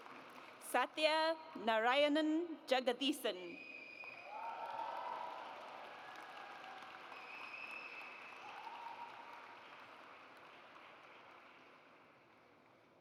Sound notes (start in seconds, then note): 4.2 audience cheers